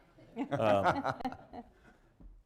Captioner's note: laughter